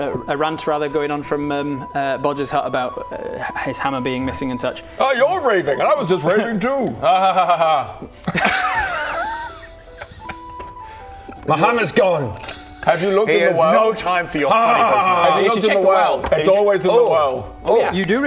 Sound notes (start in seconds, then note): 8.1 unsympathetic giggles